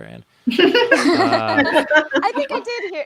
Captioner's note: both laughs